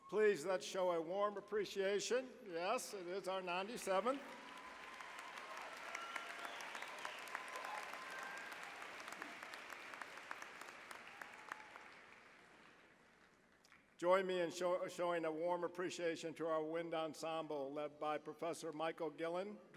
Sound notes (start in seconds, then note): 3.5 applause